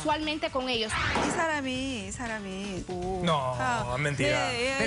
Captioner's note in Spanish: Mujer habla en otro idioma